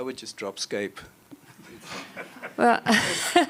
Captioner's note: laughs